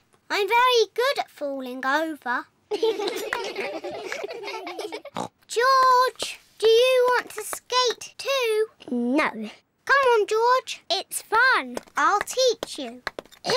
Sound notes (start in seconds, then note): 2.7 all giggle; 5.3 snorts